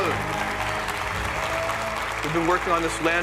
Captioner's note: cheers and applause